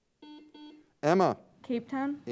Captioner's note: buzzer beeps